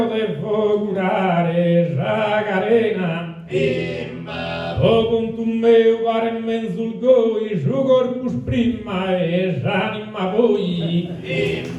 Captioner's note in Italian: Applauso